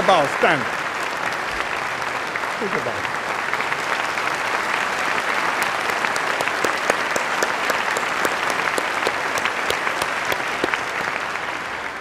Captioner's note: applause